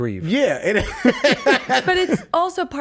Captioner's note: laughs